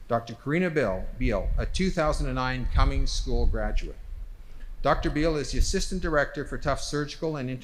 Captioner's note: none